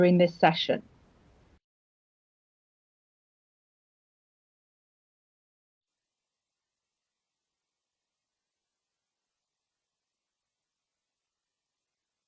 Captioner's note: audio cuts out